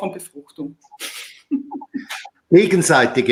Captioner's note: chuckles